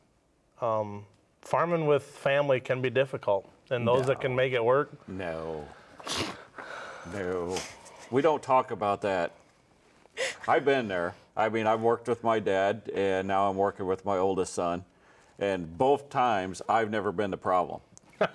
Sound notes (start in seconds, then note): 11.1 chuckling